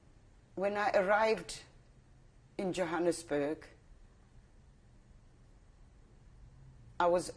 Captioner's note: pauses for 3 seconds